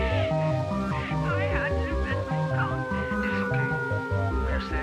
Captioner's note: cries